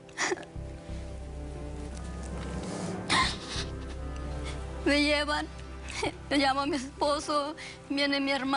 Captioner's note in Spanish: Sollozos